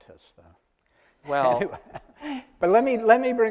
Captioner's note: laughs